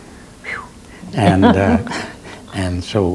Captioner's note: interviewer laughs